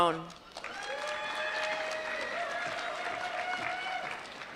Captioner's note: applause